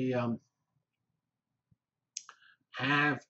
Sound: pause

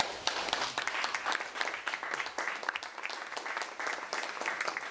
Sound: applause

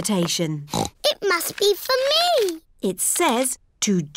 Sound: snorts

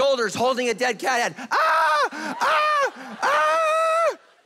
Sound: yelling

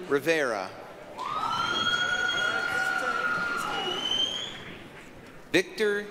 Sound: applause, cheering

